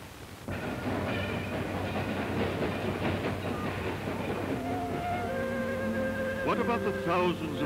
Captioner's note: train rolling on tracks